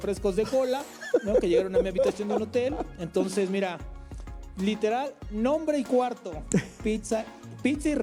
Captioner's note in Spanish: risas